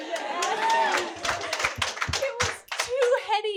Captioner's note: audience clapping